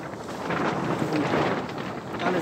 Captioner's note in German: Lautes Rauschen